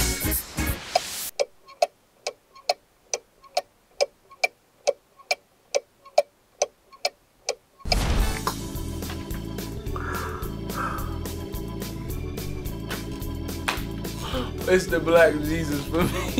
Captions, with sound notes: (ticking sound) - It's the Black Jesus for me.